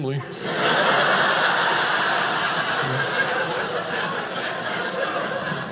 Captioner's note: audience laughing